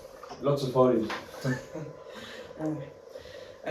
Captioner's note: giggles